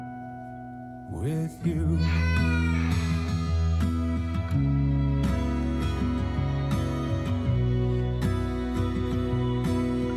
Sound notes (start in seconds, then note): 1.9 👶🏻my son crying